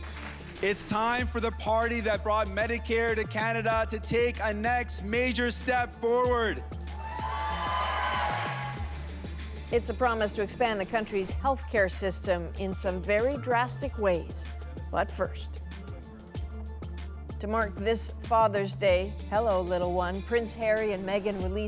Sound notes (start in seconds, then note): 9.2 cheers and Applause